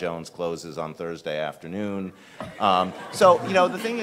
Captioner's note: all laughing